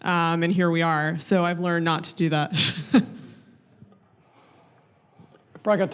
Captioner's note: laughing